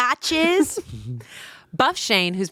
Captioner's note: laughing